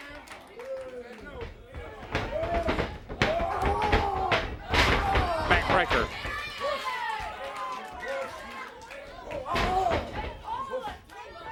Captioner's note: crowd cheering